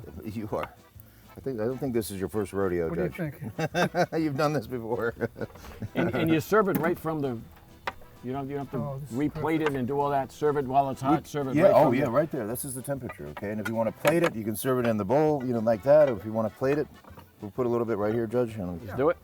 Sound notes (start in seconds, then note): 3.2 laughs; 5.7 laughs